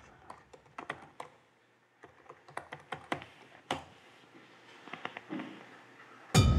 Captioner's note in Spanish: sonido al teclear